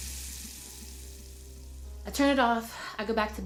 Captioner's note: water running